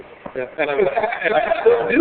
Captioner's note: laughing